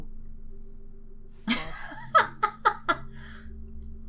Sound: laughs

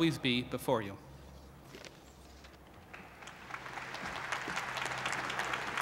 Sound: applause

